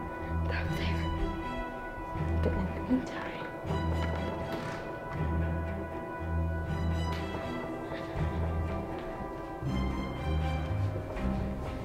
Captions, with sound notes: They're up there. (suspenseful music) But in the mean time. (footsteps) (suspenseful music)